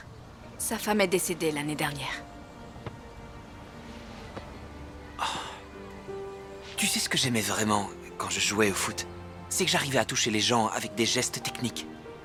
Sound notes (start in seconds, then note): 5.1 sighs